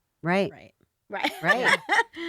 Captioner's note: laughs